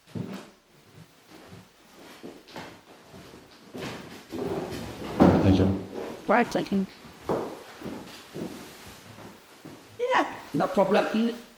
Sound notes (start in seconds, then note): 3.7 chair sliding on floor